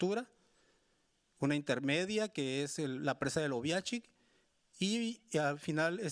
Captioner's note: speaking Spanish continues